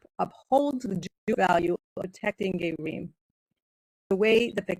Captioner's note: speaking in foreign language